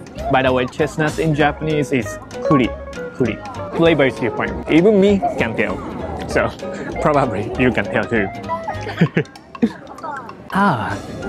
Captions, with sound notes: By the way, "chestnut" in Japanese is "kuri." Flavor is different. Even me can tell. So probably, you can tell, too. [CHUCKLES] Ah!